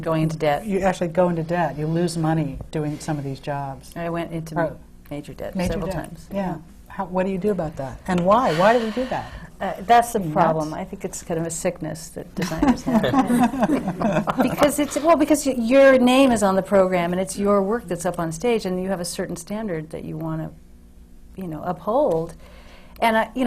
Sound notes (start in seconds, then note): 8.4 sighs; 12.4 laughter from the panel